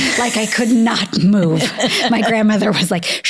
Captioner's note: laughing